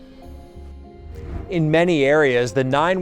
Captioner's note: air whooshing